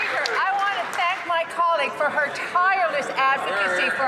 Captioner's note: some Applause